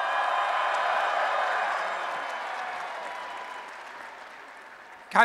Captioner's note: applause and Cheering